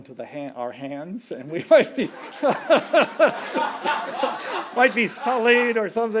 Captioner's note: laughing